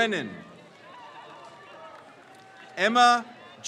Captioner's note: crowd cheers